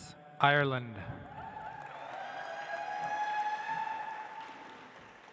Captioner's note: audience applauds